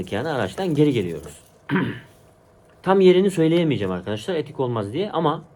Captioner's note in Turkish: boğazını temizler